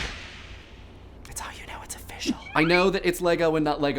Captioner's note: whispering